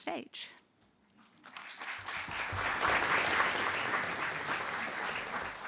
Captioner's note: applause